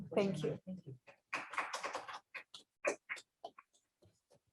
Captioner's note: crowd clapping